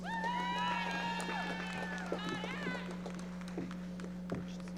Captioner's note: audience cheering